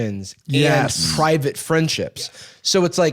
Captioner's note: others agreeing